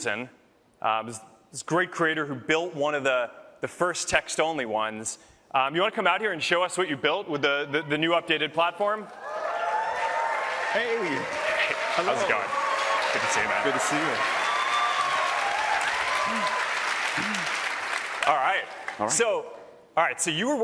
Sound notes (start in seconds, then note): 15.5 applause